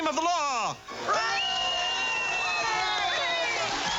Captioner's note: cheering